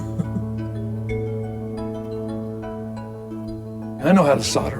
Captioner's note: chuckles